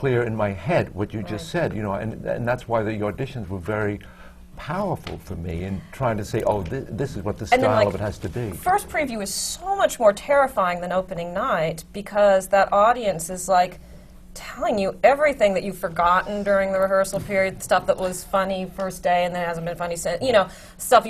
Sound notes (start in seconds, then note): none